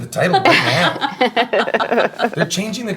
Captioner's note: laughing